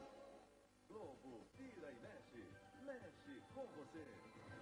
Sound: male announcer speaking Portuguese quietly

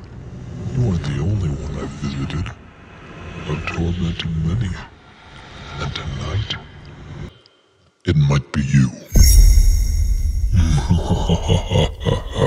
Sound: demonic Laugh

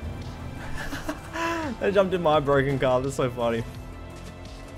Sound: laughs

